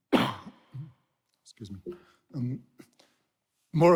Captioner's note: coughs